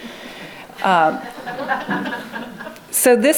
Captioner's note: laughing